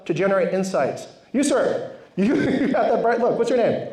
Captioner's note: laughs